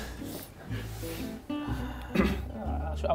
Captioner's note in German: Jemand räuspert sich